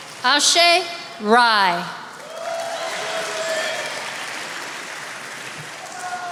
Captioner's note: attendees applauding